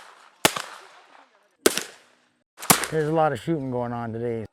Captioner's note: crack! crack! crack!